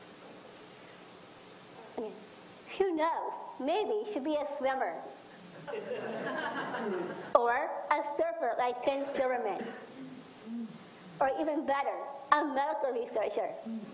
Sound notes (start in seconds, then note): 5.6 audience laughs